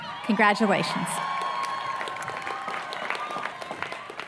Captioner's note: applause